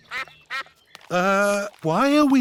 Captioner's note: sucks quacking